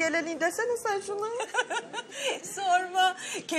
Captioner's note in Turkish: Gülüşme